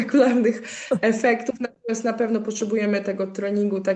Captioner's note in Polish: śmiech